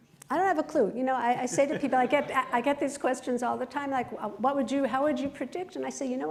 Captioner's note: laughter